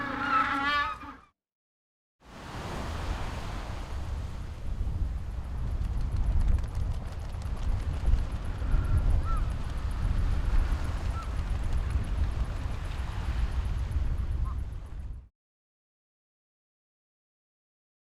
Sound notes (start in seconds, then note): 0.0 penguins call; 2.3 ocean waves roar; 9.2 birds call